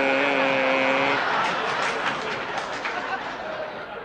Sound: laughter

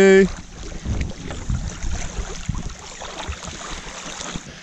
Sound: water sloshing

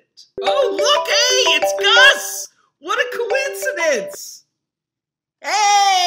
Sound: phone rings

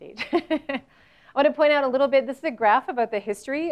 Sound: laugh

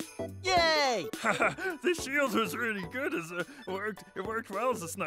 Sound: chuckles

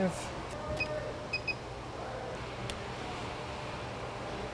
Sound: beeping

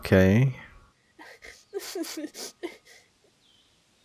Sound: Ravenpaw crying

